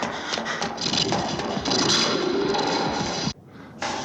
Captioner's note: snarling Continues